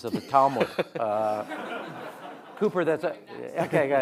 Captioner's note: audience laughing